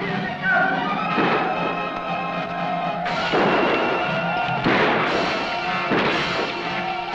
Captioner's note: suspenseful music; Yaqui shouting; gunshots blasting